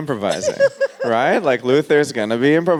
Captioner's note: laughs